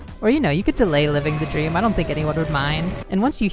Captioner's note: horrific scream